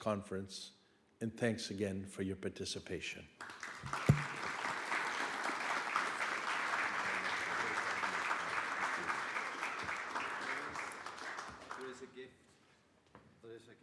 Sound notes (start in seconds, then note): 3.7 audience claps